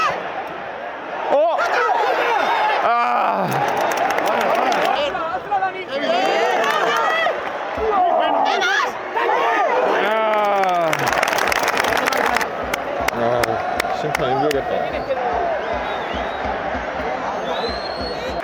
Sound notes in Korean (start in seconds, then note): 10.2 격려의 박수